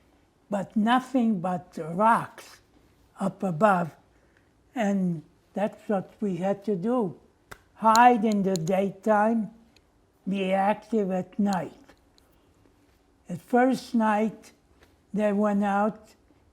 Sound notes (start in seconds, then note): none